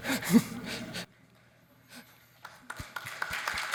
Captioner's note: audience laughs; audience applauds